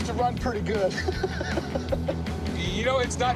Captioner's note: laughs